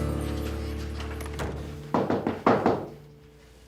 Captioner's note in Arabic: رنين جرس الباب